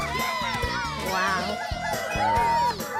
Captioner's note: cheering